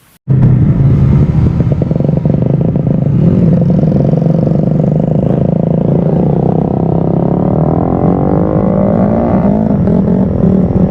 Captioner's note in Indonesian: suara sepeda motor